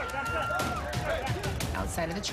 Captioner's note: screaming